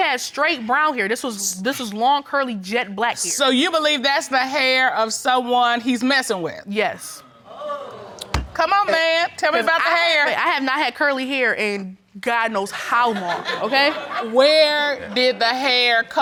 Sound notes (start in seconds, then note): 6.7 audience gasps; 11.5 audience chuckles